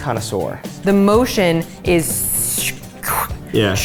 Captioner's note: makes sucking noises